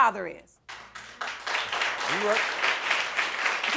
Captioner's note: audience applauding